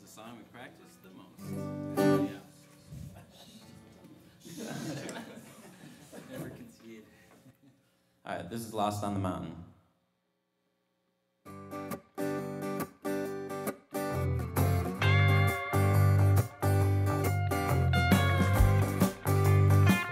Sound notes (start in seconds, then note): 0.1 background Chatter